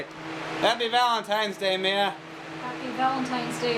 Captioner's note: shouting